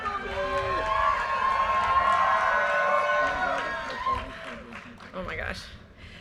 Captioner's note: audience cheers and applause